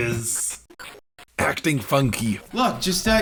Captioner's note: glitch noises